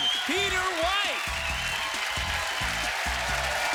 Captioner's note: cheering